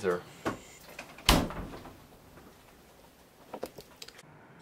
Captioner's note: door shuts